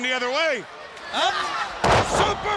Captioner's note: body thudding